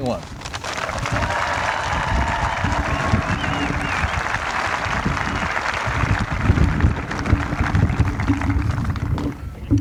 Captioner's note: applause